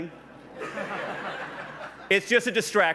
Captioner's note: laughs